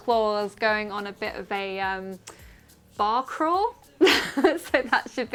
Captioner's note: laughs